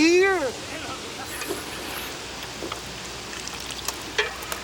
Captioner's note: Bruto slurps